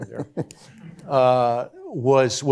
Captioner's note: chuckles